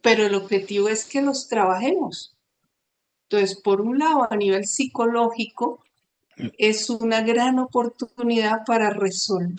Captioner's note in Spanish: carraspeo